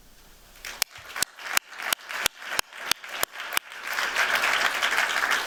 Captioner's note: applause